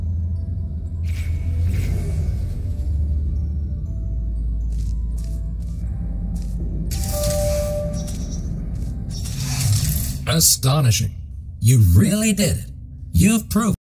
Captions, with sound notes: *Door chime* (Voice on speakers) "Astonishing! You've really did, you've proven-"